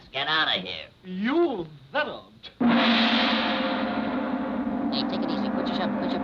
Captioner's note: gong banging